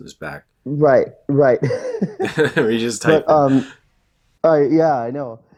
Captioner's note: laughs